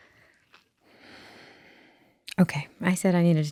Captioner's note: exhaling